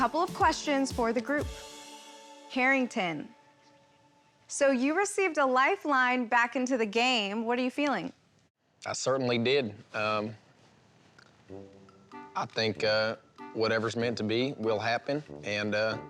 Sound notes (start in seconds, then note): 6.7 southern accent